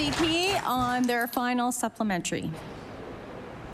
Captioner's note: applause